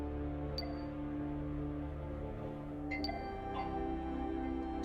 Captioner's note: coffee pot chirping